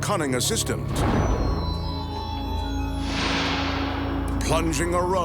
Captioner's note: smoke whooshing